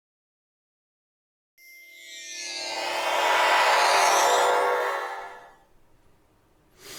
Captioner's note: transporter sound effect; deep breath